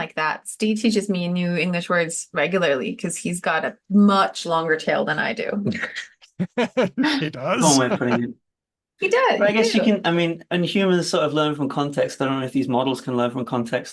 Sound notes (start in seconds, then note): 6.3 laughter